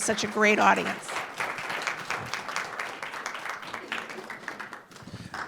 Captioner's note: applause